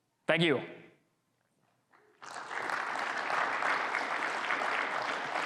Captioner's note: audience clapping